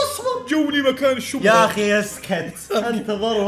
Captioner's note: mockingly